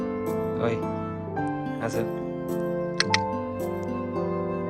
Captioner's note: sound call; background music